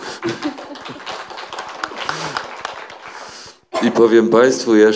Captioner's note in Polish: śmiech, brawa